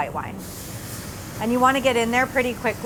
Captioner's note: wine sizzling